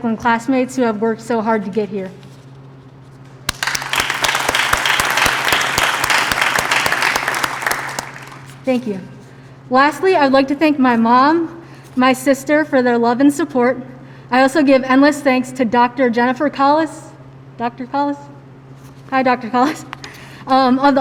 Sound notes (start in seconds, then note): 3.4 applause